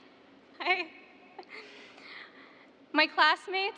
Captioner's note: laughter